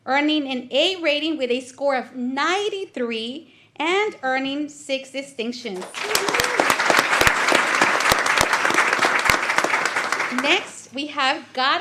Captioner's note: applause